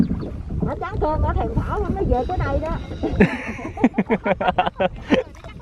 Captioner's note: laugh